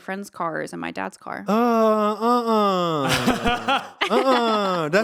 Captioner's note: laughing